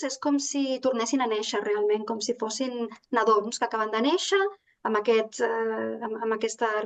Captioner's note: continues speaking in Catalan